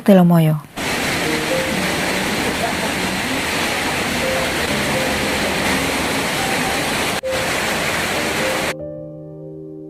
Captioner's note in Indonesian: suara hujan